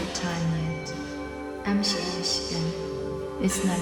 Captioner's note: speaking Taiwanese